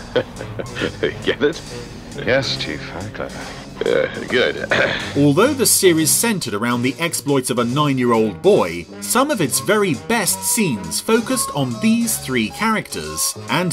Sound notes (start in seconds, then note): 0.0 chuckles; 3.8 clears throat